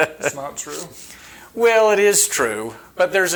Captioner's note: chuckling